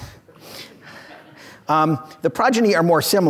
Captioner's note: audience laughs